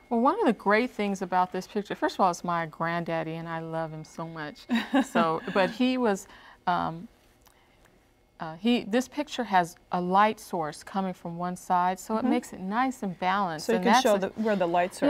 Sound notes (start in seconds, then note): 4.7 laughter